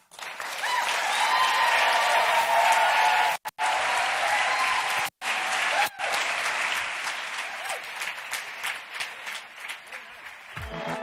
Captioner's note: applause